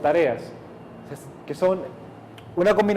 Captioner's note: plane passes